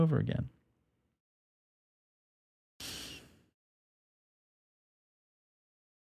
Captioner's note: sighs